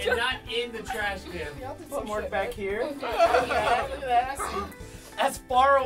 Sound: laughing

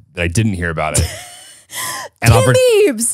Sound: laughs

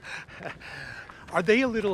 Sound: laughs

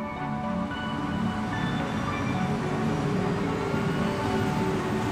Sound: city traffic noise

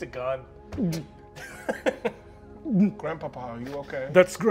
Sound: gagging; laughing

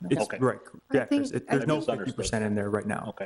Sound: talking in unison

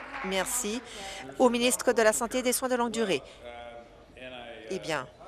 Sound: applause

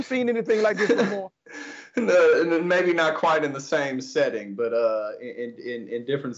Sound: laugh

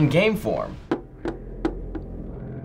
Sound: thumping controller

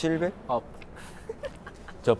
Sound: just laughing

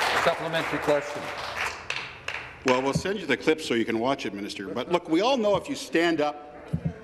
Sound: applause

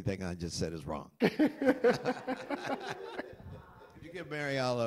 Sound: laughter

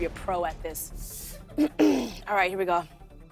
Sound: clears throat

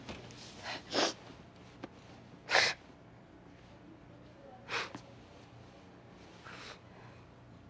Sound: both sniffling

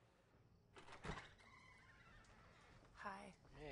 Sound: door opens

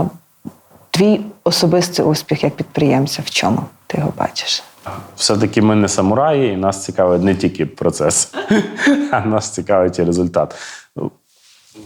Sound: laugh

